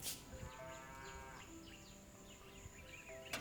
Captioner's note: Beuglement d’une vache